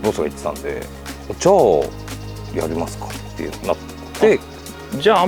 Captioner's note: laughs